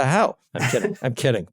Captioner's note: laugh